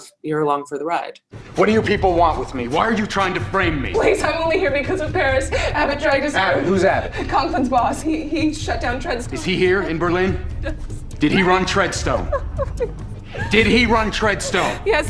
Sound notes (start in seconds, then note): 12.2 whimpering